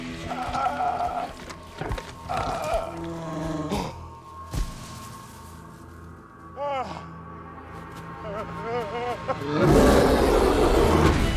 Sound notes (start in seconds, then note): 0.2 groaning; 2.2 gasps; 2.2 Bear grumbles; 6.5 gasps; 8.2 whimpering; 9.5 roars